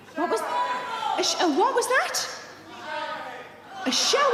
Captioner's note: audiences shouting; audience shouting